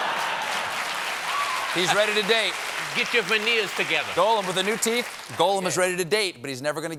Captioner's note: laughter; applause